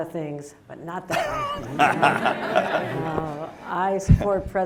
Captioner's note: laughter